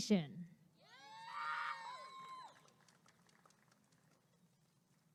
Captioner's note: applause and cheering